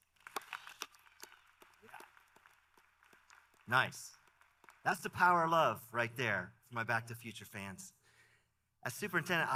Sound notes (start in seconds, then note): 2.3 applause